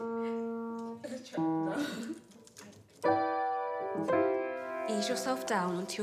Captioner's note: laughs